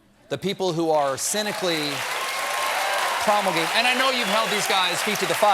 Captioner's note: cheers and applause